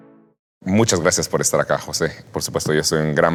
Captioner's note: in Spanish